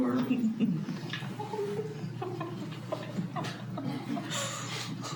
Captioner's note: laughs